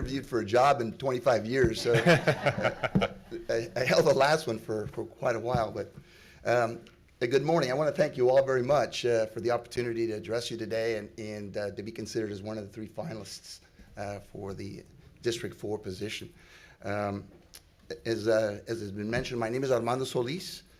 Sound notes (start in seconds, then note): 1.8 laughing